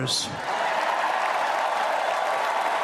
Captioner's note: applause